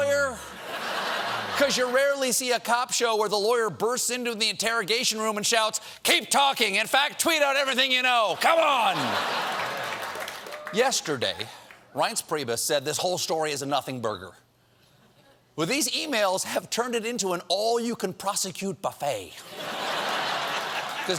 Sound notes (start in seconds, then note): 8.9 laughter; 8.9 applause